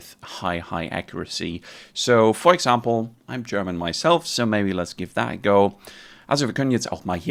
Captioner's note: German